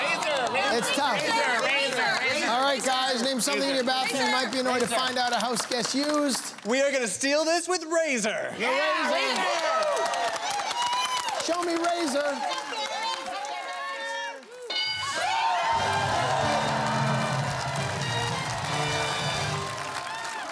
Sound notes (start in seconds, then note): 8.1 cheering; 14.1 bell dings